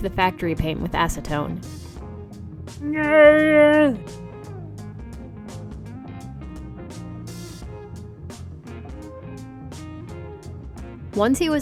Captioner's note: inelegant noises